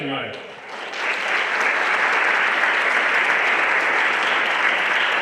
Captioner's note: everyone applauding